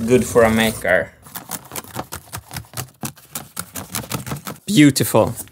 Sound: cutting cardboard

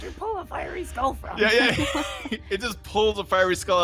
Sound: laughs

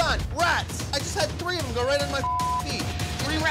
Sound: beep

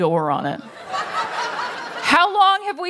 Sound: laughter

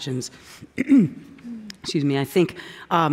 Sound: clears throat

